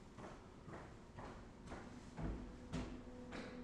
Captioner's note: footsteps